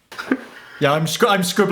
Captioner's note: chuckles